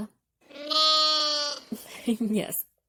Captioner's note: sheep baas; laughs